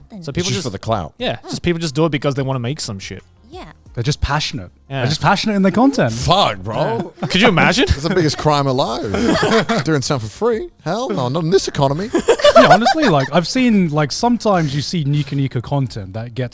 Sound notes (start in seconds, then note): 11.9 everyone laughing